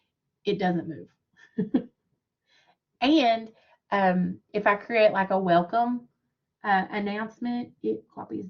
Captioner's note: laughter